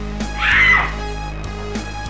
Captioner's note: scream